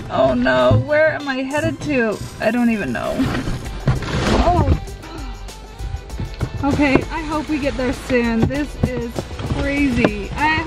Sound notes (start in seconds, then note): 2.9 box rustles; 2.9 groans